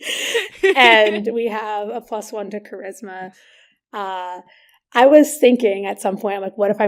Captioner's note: both laugh